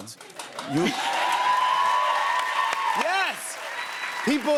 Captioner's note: cheers and applause